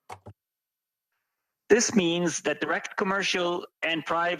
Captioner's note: speaking French